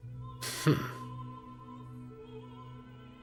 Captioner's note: laughter